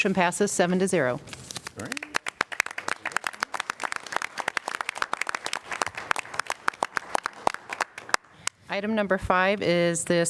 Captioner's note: applause